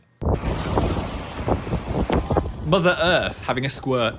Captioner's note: geyser erupting